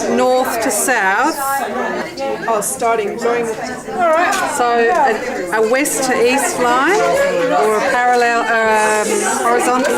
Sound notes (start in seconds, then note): 1.4 participant chatter